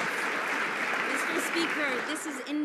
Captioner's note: some Applause